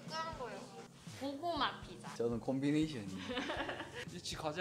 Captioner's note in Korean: 웃음